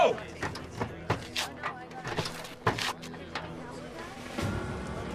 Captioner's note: muffled conversation